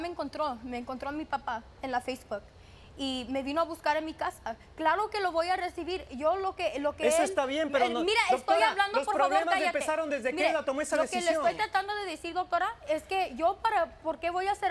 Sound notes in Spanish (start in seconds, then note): 10.3 Hablan al unísono